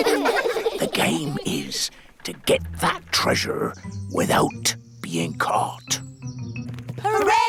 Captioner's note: all giggle; whispers